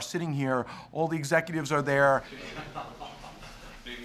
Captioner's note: laughter